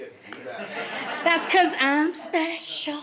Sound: audience laughs

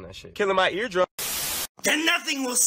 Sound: TV Static

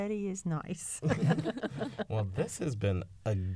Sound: laughter

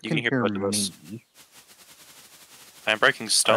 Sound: bush rustling rapidly

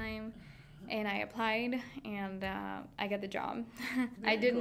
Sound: laughing

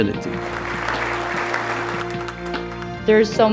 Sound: audience applauding

